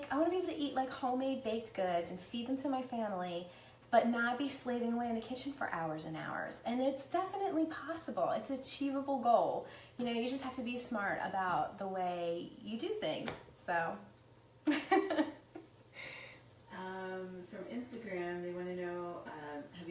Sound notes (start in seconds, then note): 14.7 laughs